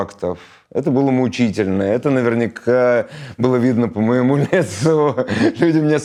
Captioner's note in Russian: смеётся